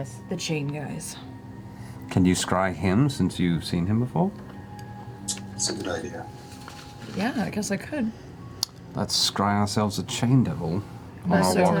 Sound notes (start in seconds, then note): none